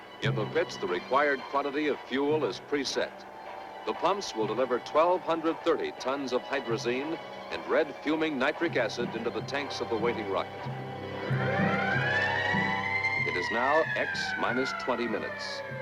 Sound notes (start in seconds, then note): 10.2 alarm blaring